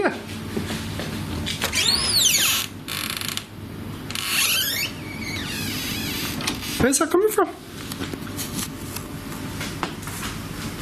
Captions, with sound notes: It's here. (door creaks) Where's that coming from?